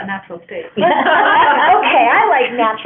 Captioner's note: laughter